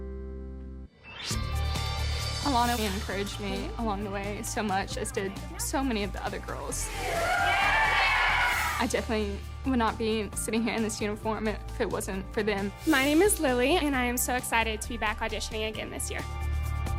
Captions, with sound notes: (upbeat music) Alana really encouraged me along the way. So much, as did so many of the other girls. (cheering) I definitely would not be sitting here in this uniform if it wasn't for them. My name is Lily and I am so excited to be back auditioning again this year.